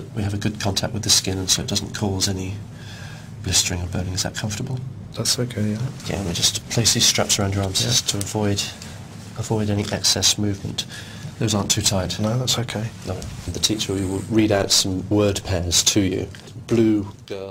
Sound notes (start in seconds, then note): none